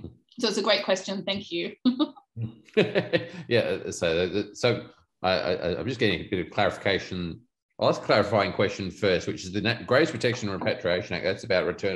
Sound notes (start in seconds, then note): 2.7 laughs